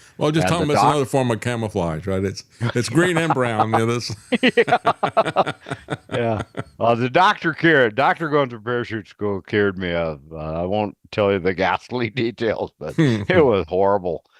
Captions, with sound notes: Well just tell me another form of camouflage, right? It's green and brown in this. (Laughing) Well the doctor cured, doctor going to parachute school cured me of, I won't tell you the ghastly details, but it was horrible.